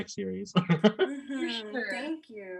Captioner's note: laughing